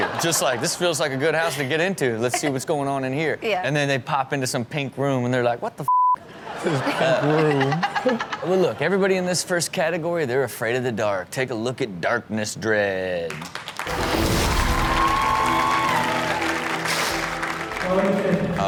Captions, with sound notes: Just like this feels like a good house to get in to. Let's see what's going on in here. And then they pop into some pink room and they're like, "What the (beep)?" (audience laughs) - Pink room. - Well look. Everybody in this first category, they were afraid of the dark. Take a look at Darkness Dread. (audience cheers) (upbeat music)